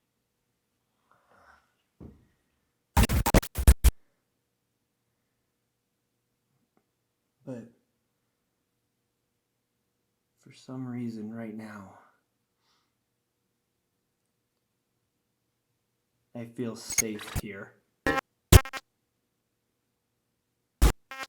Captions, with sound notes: (static crackling) But for some reason right now, I feel safe here. (static crackling)